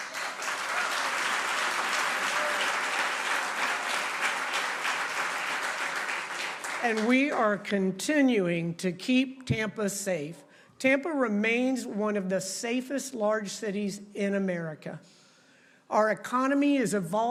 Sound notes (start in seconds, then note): 2.6 applause